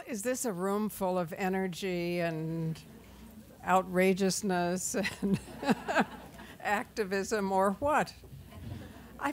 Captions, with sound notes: - Well, is this a room full of energy and outrageousness and (laughs) activism or what?